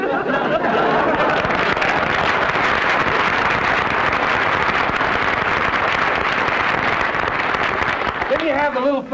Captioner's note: applause